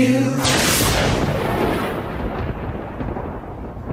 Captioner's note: lightning cracks and echoes